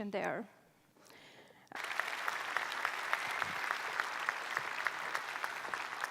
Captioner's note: applause